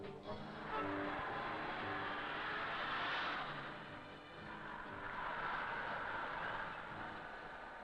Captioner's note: cars racing